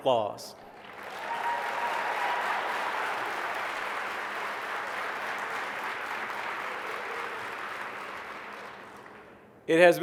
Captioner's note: applause